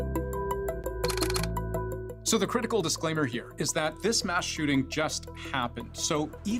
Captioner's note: camera shutter